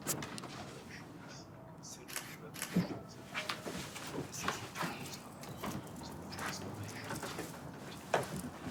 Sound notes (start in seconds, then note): 2.6 camera shutter clicks